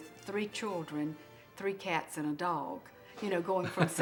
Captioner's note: laughing